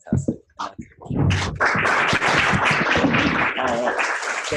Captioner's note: applause